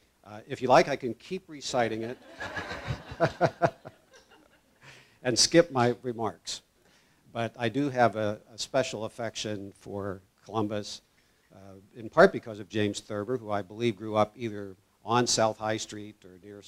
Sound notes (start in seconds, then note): 2.1 laugh